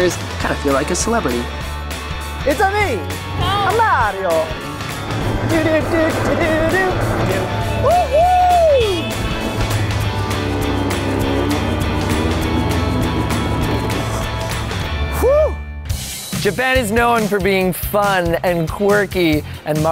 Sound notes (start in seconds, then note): 9.3 engine revving; 11.5 upbeat music